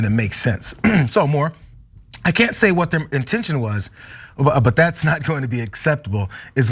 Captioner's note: cough